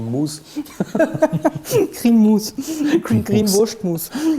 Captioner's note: laughs